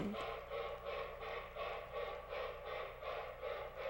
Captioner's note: train chugging